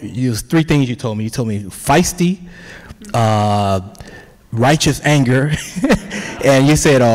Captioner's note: laughs